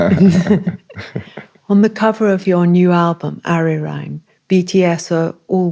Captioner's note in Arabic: ضحك